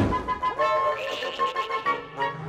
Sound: owl hooting, distant laughing

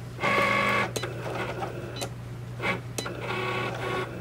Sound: Cricut draws

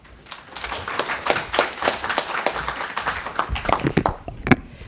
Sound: audience applauding

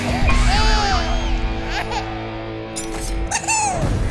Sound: baby crying

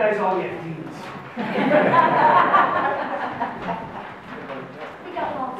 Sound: audience laughs

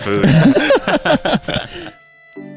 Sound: all laughing

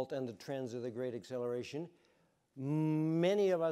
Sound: none

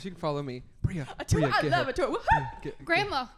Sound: whispered

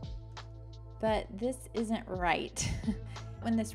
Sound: chuckles

